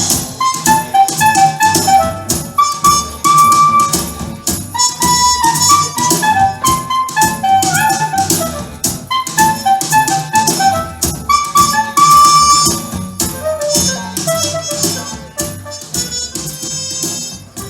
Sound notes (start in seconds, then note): none